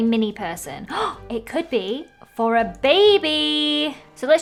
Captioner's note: gasps